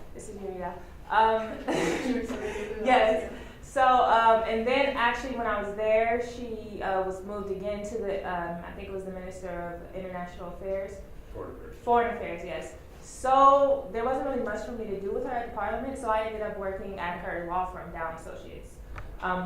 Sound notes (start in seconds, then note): 1.6 audience laughs; 2.6 audience member mumbles question